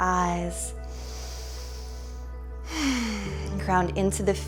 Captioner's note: deep breathing